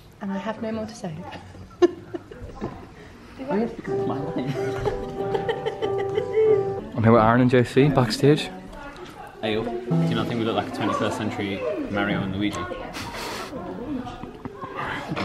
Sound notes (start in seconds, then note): 1.3 laughter; 4.4 laughter